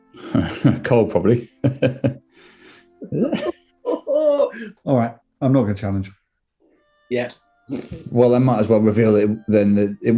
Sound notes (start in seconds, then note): 1.4 mock chuckling; 3.0 giggling